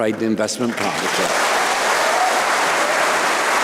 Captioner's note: applause